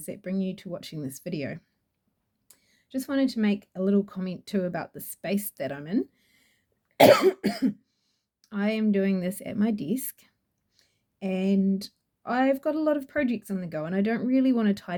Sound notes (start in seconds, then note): 7.0 coughs